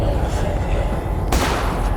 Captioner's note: gun fires